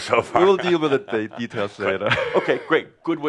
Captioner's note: chuckles